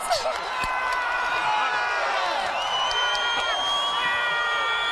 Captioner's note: fans cheering